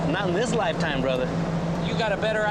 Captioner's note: chuckles